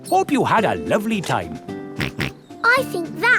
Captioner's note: snorts